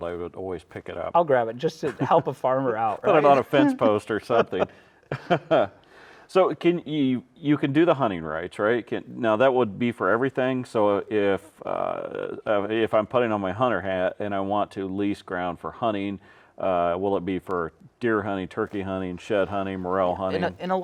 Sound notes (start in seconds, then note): 2.8 laughing